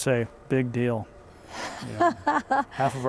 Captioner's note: laughing